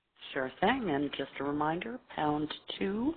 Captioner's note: voiceover